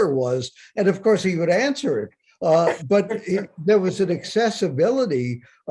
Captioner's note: Bob laughs